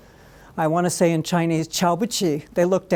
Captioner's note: speaking Chinese